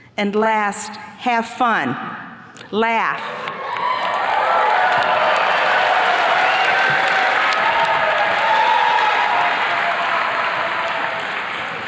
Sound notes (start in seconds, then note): 3.4 attendees cheers and claps